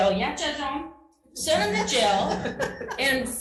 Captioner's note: laughing